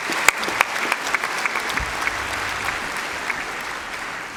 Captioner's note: applause